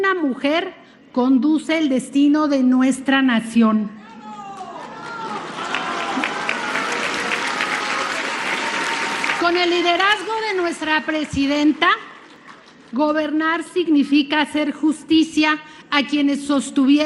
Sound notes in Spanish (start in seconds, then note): 4.2 aplausos